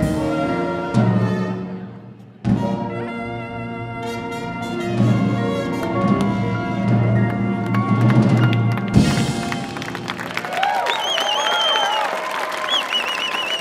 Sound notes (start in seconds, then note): 10.0 audience cheering